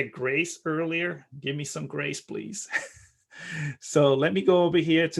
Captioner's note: chuckling